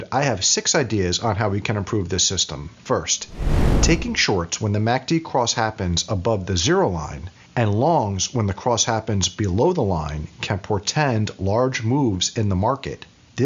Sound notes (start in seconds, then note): 3.3 whooshing